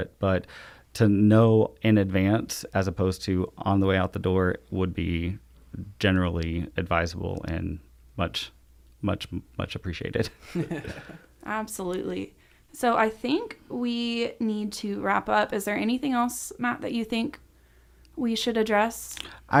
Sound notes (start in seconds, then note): 10.2 chuckles; 10.4 laughs